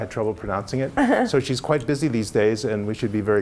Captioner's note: laugh